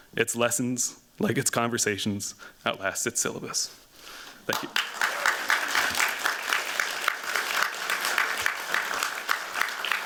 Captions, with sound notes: Its lessons, like its conversations, outlasted syllabus. Thank you. [APPLAUSE]